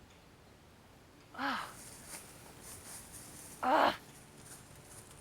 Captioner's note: Abigail grunts